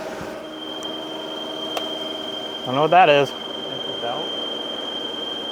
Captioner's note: squealing